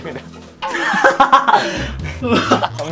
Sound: laughing hysterically at his pick

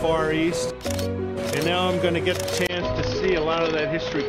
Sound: camera flashes

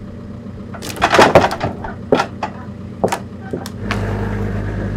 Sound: log clatters

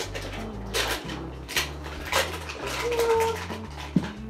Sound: paper crinkles

